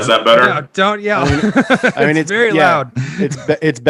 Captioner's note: laughs